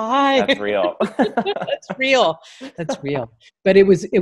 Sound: laughing

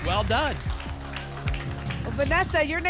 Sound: applause

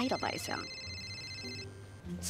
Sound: phone ringing

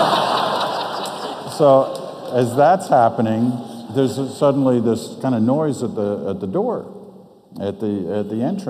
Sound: audience laughs

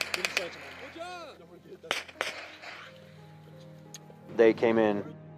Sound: gunfire; men shouting

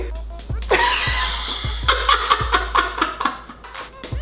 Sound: laughs

